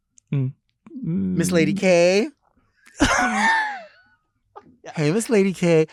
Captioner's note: laughing